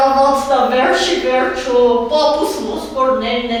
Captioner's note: laughing